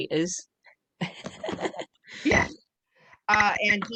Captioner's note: laughter